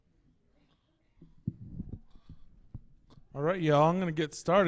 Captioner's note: silence